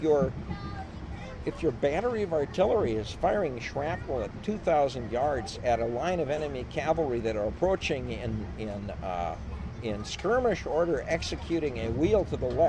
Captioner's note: laughs